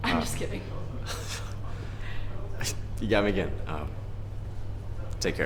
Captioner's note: chuckles